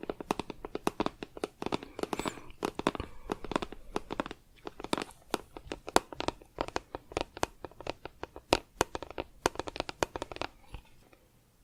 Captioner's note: tapping on plastic